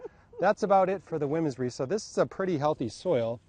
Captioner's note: laughs